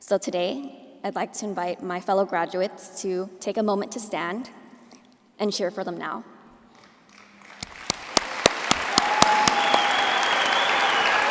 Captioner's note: applause